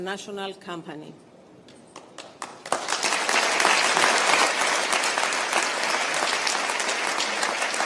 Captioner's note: applause